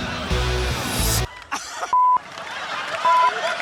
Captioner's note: laughs